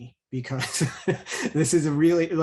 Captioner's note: chuckles